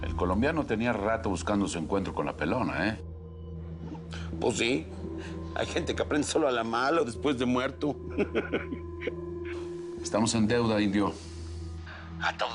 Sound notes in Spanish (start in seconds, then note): 8.0 Risas